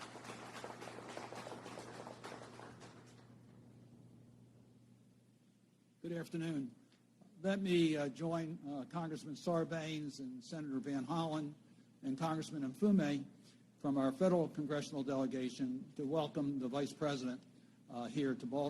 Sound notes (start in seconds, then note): 4.2 applause